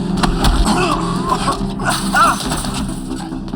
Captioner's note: groans